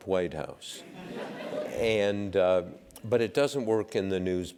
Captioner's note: laugh